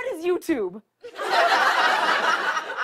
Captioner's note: laughter